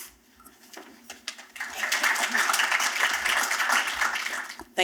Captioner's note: applause